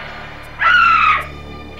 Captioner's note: shriek